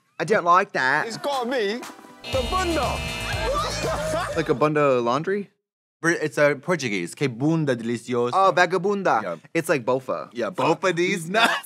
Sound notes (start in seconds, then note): 2.2 chime buzzes; 3.2 all laughing; 7.3 speaking Portuguese "Que bunda delicioso"